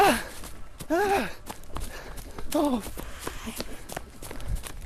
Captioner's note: panting